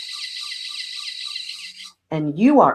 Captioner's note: machine whirring